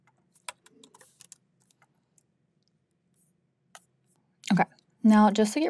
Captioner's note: keyboard clacking